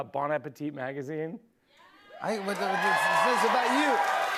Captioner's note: cheers and applause